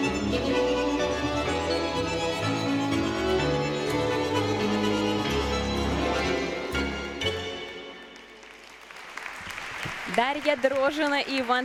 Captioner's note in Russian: аплодисменты